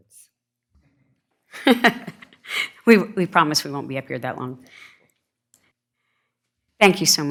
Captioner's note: laughs